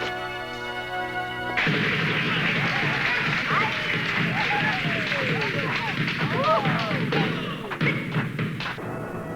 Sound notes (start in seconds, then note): 1.5 people cheering